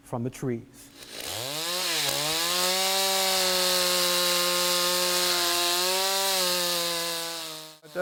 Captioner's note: buzz saw noise